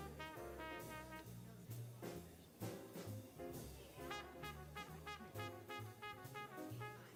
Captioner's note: people chattering; upbeat jazz music continues